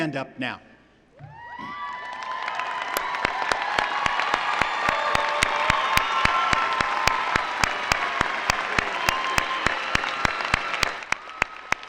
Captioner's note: cheering and applause